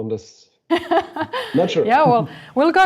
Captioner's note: laughs